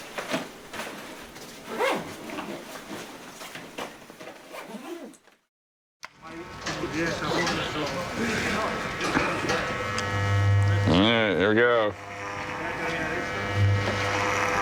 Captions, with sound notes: [indistinct chattering] [shaver buzzing] -There. Here we go.